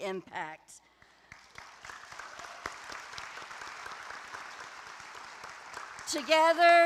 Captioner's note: applause